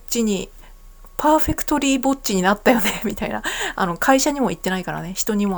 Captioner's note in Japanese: 笑い